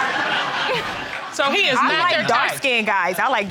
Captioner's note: crowd laughing